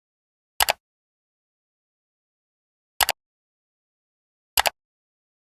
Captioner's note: mouse Click